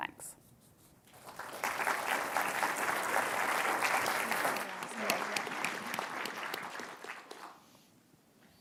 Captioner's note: applause